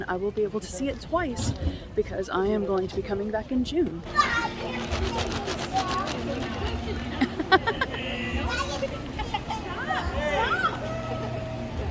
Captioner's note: laughter